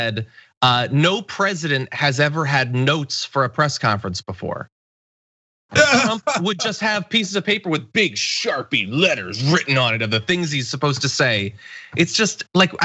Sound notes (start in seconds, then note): 5.7 laugh